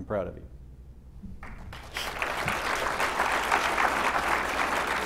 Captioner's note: applause